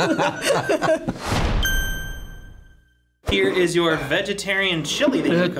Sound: laughs; ding

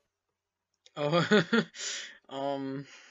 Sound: heheh

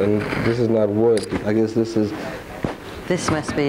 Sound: knocking

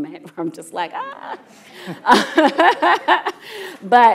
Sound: laughs

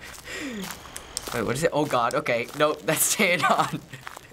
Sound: laughs

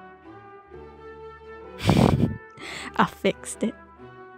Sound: laughs

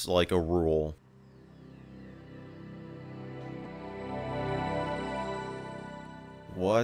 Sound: Windows 98 Startup Sound plays

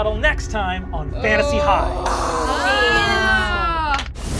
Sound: group groans

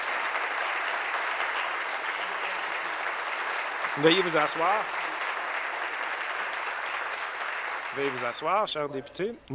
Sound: applause

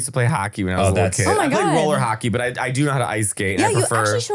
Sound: laughing

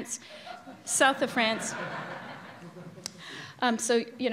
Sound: audience laughing loudly

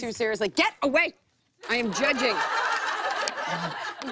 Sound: laughter

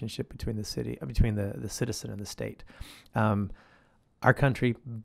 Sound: none

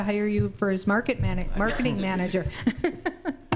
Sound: laughs

